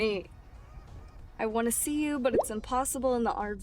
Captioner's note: text bubble pops